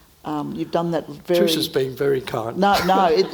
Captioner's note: chuckles